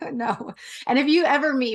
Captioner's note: laugh